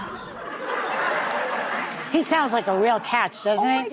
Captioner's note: audience laughs